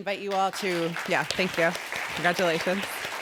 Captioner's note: applause